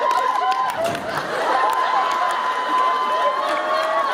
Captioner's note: laughter and applause intensifies; cheers